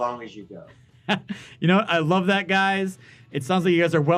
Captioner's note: laughing